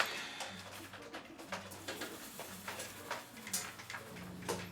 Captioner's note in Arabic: تنقر على مفاتيح لوحة المفاتيح